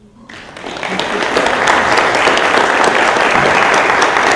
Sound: audience applause

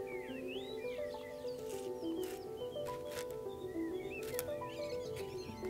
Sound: dried flowers rustle on paper

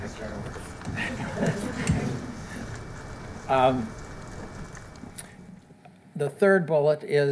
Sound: chuckles

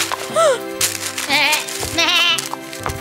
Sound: gasps

